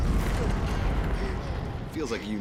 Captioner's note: arya gasps